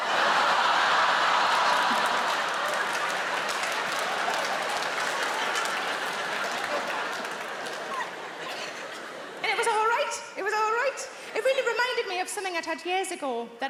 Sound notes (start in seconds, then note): 0.3 audience laughing; 2.8 audience applauding